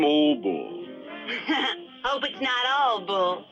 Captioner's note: laughs